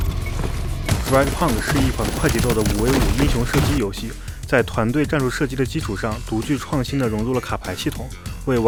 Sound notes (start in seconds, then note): 1.2 man speaking Chinese